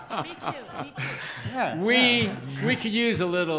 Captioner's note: group laughter